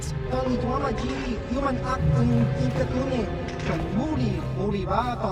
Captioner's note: sound over Loudspeaker